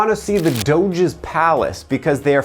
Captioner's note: camera shutter clicks